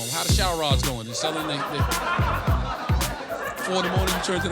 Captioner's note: crowd laughing